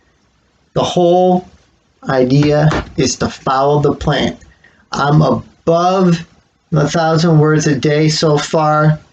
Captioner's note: clump of phone on desk